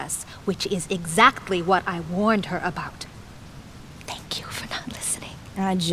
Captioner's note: whispers